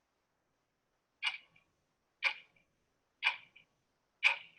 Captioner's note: clock ticking